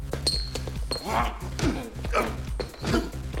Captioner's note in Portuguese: grunhidos